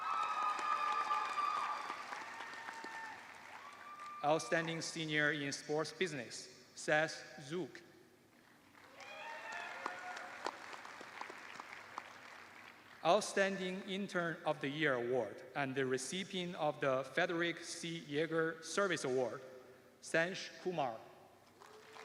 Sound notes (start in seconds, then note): 0.0 cheers and applause; 3.9 cheers and applause; 18.0 cheers and applause